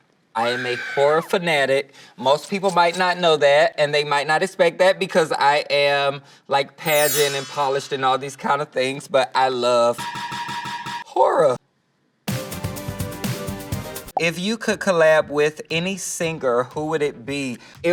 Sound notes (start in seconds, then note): 0.4 person screaming; 6.8 chimes ringing; 12.3 upbeat music